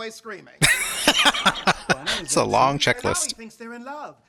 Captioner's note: laughing